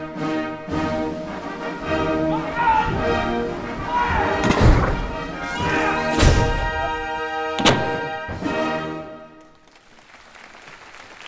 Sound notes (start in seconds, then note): 4.2 cannon fire; 9.4 applause